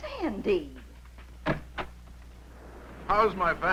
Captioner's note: door opening